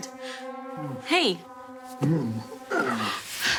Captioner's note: groaning